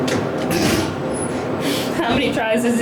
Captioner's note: laughs